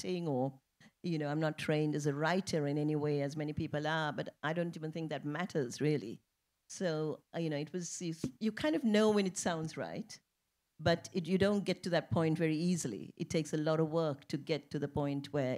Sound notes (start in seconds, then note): none